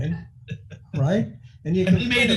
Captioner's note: laughing